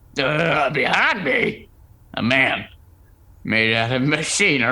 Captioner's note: startled exclamation, beat, awed